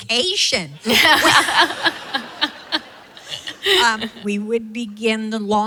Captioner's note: laughing